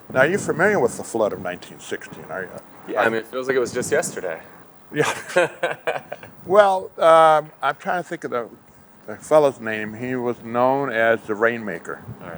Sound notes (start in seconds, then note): 4.9 both chuckle